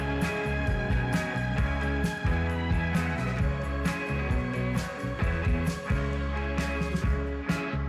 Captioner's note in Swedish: Applåder